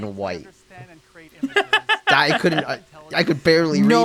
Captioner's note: laughs in accessibility